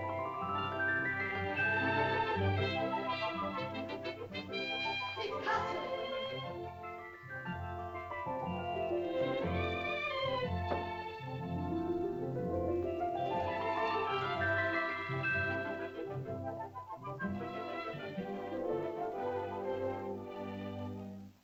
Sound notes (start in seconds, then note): 5.3 girl speaks in caveman language; 7.9 whimsical music